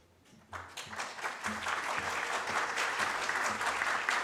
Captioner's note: audience claps